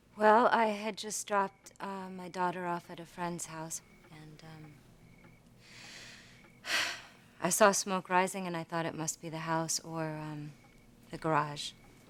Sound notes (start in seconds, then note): 6.6 sighing